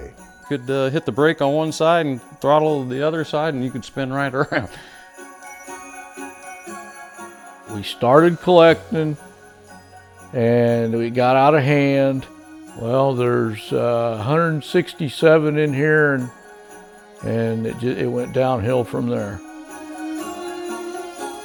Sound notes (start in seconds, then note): 2.7 laughs; 4.5 calm music; 19.0 calm music